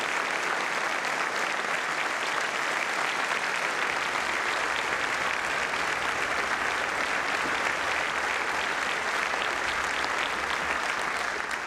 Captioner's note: applause